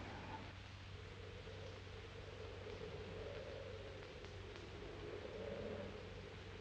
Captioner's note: wind blowing